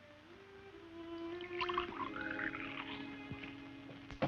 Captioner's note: water sloshes